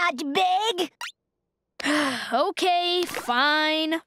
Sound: sighing

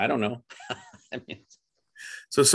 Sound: laughs

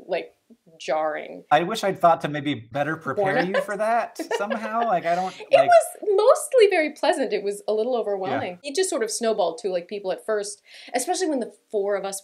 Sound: laughter

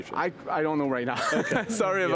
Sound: laughs

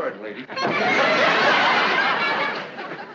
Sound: laughing

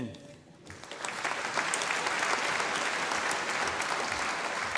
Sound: audience applauding

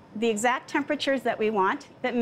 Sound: none

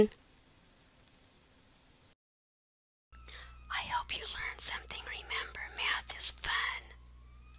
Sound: whispers

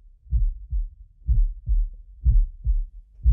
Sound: heartbeat begins

